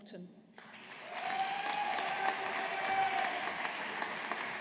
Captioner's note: audience applauding